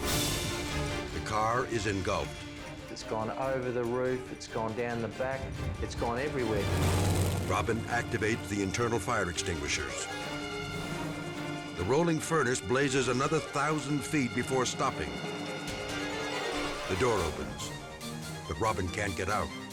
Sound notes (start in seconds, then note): 0.2 dramatic music; 5.7 engine rumbles; 15.8 dramatic music